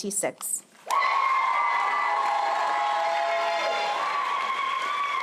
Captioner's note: applause